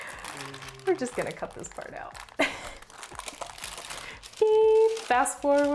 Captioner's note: laughs